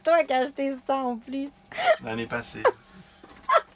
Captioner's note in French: rires; rires